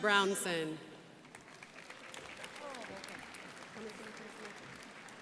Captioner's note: crowd applauding